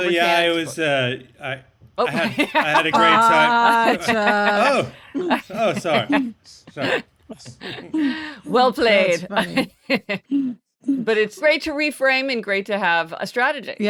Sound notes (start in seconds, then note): 2.0 laughing